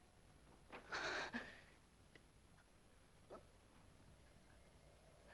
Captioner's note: Virginia gasps